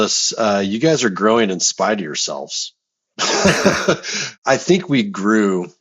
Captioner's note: laughs